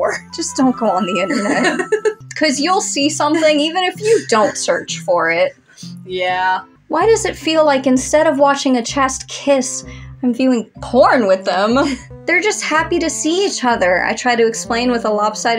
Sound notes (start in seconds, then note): 1.2 laugh; 3.9 giggling